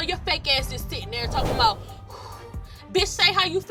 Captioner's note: exhales